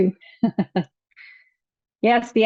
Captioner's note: chuckles